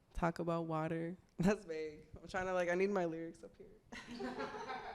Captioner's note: laughs